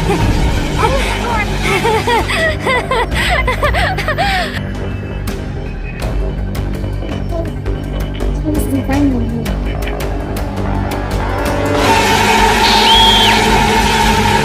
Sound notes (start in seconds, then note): 0.0 evil laughter; 12.5 screaming